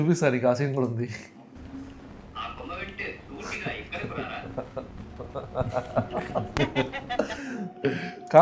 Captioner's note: laughs